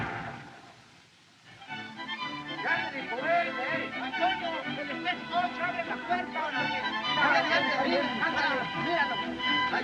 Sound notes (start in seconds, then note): 2.6 men Speaking Spanish